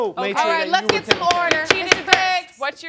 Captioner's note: banging gavel